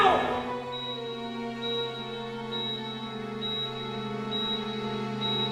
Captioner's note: machine beeping intermittently